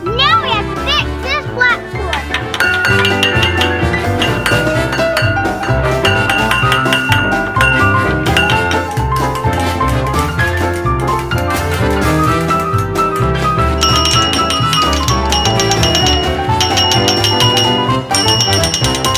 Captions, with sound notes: Now we have to fix this platform. (tools hammering)